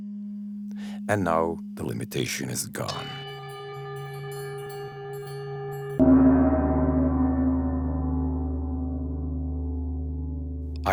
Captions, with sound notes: And now the limitation is gone. (deep bell tolls)